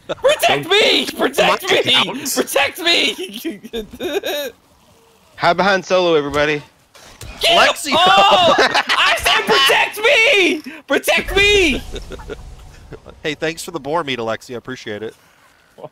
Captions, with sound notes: Protect me! Protect me! *laughter* Don't die on my account... Hide behind Solo everybody! Get him! Oh... I said protect me! Alexia! *group laughter* Hey, thanks for the boar meat Alexia, I appreciate it!